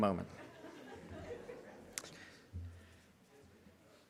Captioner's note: audience laughs